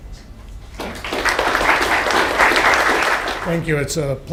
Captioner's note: applause